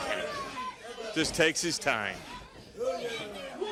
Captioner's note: crowd chatter